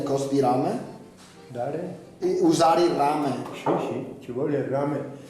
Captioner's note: speaks dialect